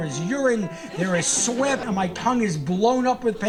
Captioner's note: audience laughing